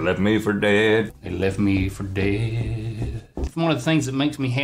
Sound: foot tapping

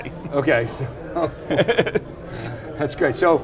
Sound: chuckles loudly

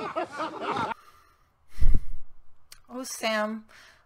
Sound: laughter; sigh

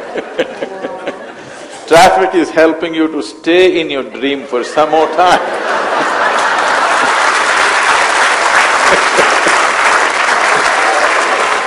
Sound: laughter/Applause

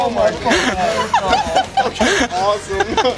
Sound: laughing

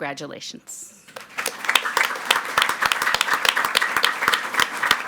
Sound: audience clapping

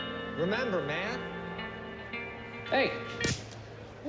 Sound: slaps

